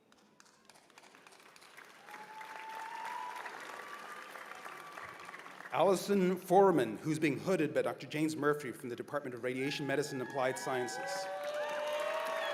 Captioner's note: cheers and applause